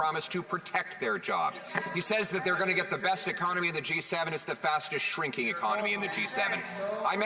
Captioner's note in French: voix de l'interprète